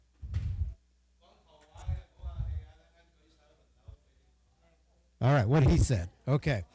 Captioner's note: speaking Chinese dialect